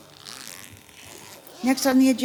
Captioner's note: zipper buzzing